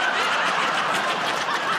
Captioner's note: laughter